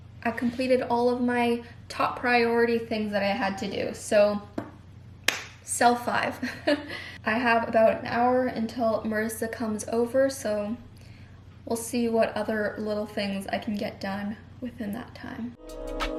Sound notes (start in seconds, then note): 5.2 claps hands; 6.4 chuckles; 15.6 mellow jazzy contemporary music